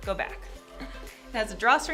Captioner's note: chuckle